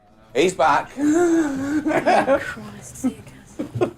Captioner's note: laughs